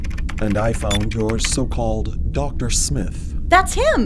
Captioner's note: sound of typing